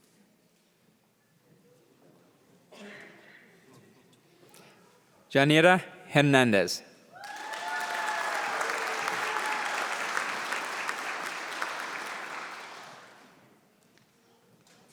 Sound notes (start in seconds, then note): 7.2 applause